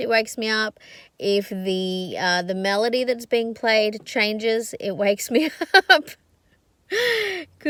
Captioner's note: scoffs